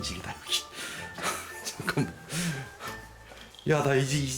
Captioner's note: laugh